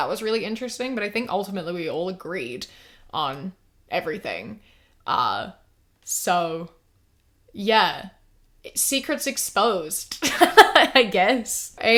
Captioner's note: laughs